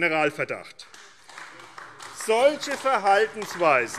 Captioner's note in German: Beifall DIE LINKE